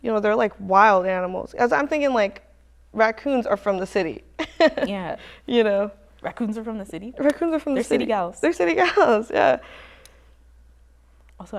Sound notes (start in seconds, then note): 4.4 chuckles